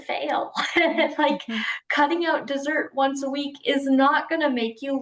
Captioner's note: laughs